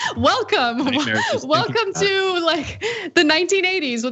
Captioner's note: laugh